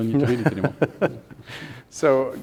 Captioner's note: laughing